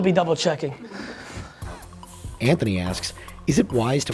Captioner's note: voiceover